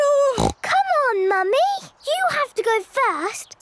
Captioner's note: snorts